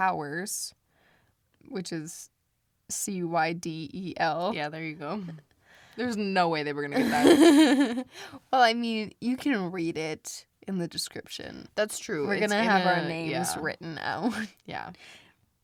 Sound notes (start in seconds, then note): 7.0 laughs